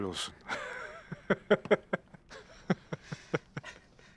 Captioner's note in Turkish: Gülme sesi